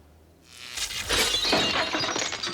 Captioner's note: buzzing